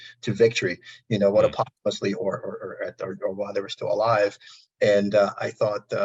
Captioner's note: audio distortion